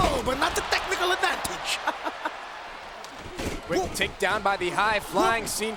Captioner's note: laugh